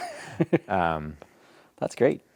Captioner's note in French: rires